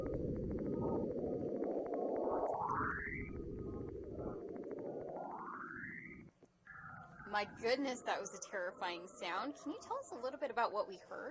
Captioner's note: eerie sound